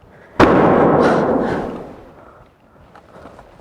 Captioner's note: door bangs